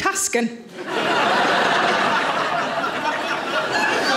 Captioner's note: audience laughing